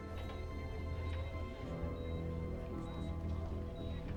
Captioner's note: monitor beeping